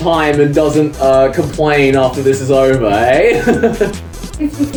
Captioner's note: laughs